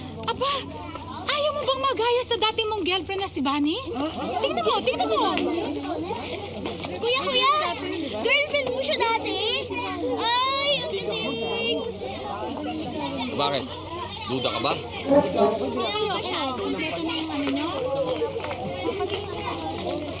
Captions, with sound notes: Don’t you want to be like your former girlfriend, Bunny? -Look at her. Look at her. -[people murmuring] Is that true? She was your girlfriend? How nice. -Why, are you doubting it? -Not really. How about you? You got everything? Let me see.